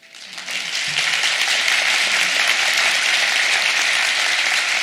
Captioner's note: audience applauds